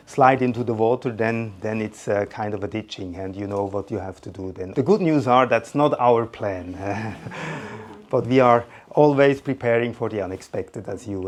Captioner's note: laughs